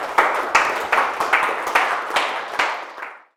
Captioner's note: audience applauds